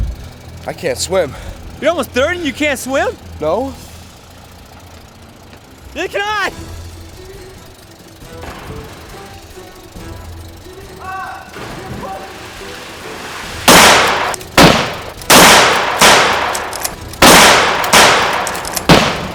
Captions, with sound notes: - I can't swim. - You're almost 30 and you can't swim? - No. (yelling) (splashing) (yelling) (guns firing)